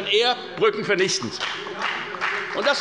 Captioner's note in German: Beifall bei der FDP